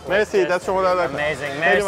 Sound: speaking foreign language

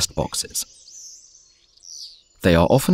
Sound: sounds of nature

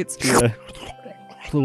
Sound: continues slurping

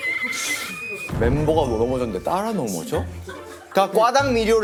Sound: exploding

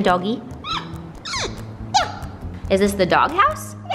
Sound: squeaks

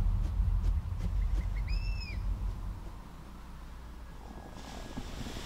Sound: wings fluttering; birds chirping

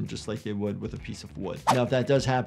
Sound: graphic whooshes

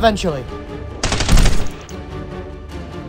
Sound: rapid Gun Fire Sounds

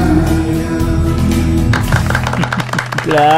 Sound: applause

